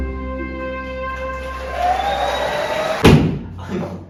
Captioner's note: clapping